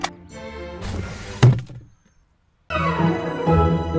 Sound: kit thudding; upbeat adventurous music

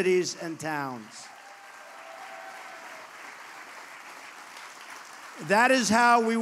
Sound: applause

